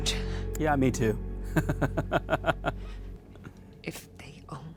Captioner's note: laughs